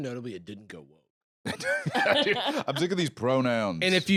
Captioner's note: laughs